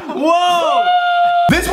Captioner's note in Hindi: चिल्लाना